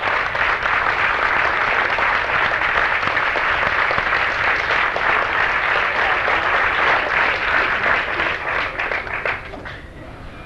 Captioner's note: applause